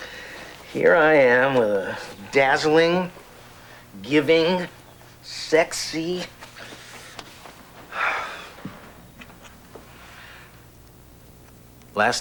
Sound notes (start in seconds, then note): 7.8 sighs